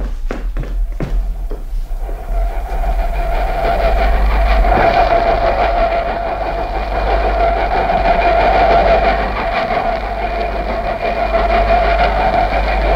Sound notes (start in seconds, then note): 1.9 the local train approaches and stops